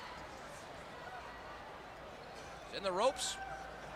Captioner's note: crowd chatter